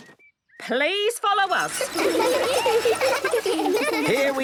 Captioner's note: laughter